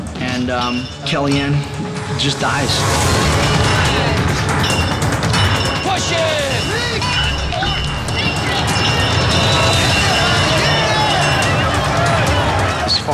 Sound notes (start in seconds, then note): 3.3 bells ringing; 7.1 bells ringing; 9.2 contestants yelling